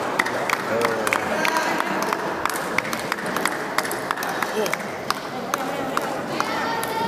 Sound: applause

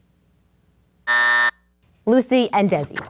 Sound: buzz

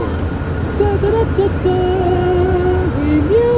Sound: imitating magical music

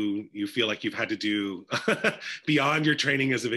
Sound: laughs

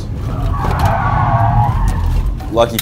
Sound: car tires screeching

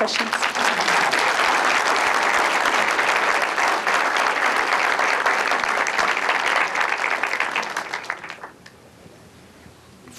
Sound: applause

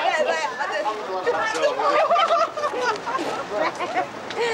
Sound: woman laughs; Sandra laughs

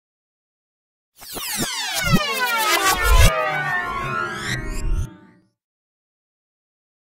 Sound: sound of sci fi whoosh

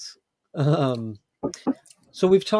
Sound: laughs

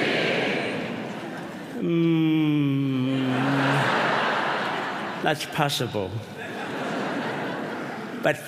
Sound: humming

